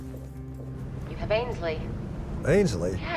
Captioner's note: on phone